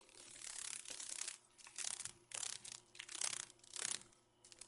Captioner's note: sounds of a dragon fly